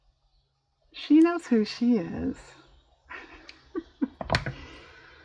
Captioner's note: laughs